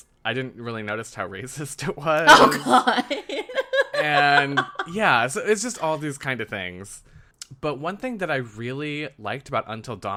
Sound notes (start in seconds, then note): 4.8 laughs